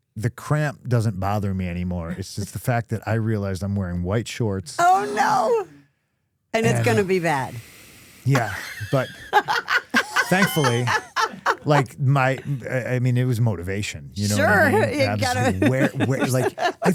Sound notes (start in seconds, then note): 8.3 Stephanie laughing; 14.3 laughs